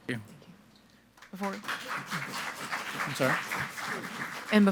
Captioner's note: audience applauding